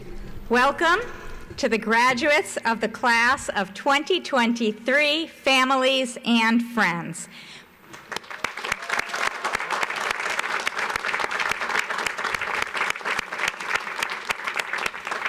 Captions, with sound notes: - Welcome to the graduates of the class of 2023, families and friends. (audience applauds)